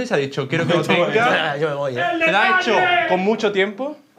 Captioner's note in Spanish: grita